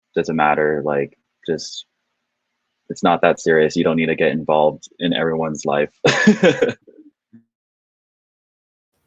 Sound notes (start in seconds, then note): 6.0 laughing